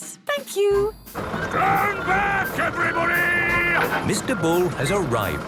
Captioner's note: shouting